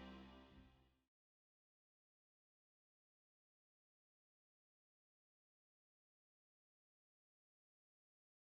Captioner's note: silence